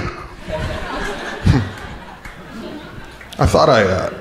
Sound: crowd laughing

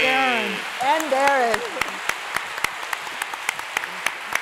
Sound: applause

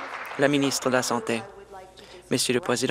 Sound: applause

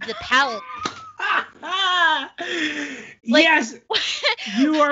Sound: laughs

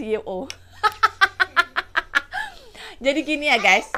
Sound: laughs

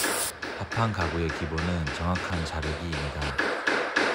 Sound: cutting

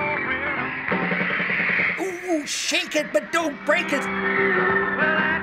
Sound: fangirls scream

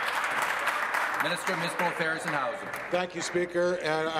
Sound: applause

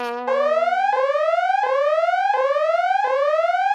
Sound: alarm blaring

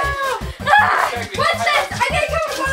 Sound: squeals

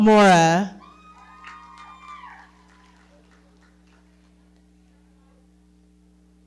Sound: audience cheering and clapping

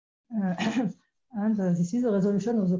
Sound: clears throat

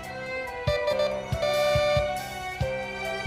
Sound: doorbell ringing

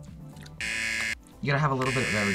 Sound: buzzer

